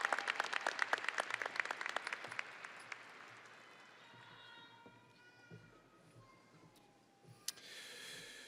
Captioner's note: audience applauding and cheering